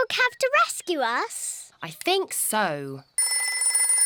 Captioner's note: rings